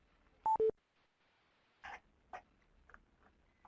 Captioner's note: beeping